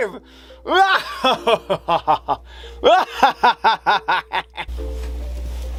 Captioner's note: evil laugh